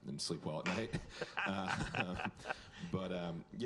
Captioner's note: laughter